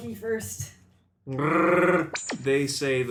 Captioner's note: Wookie growl